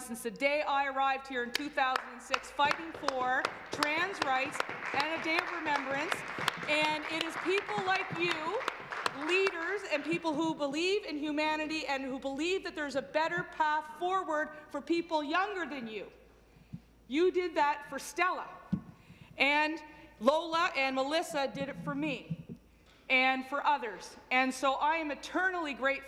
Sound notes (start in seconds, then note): 9.4 some Applause